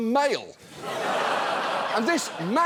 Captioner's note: studio audience laughs